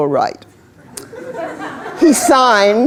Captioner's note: laughter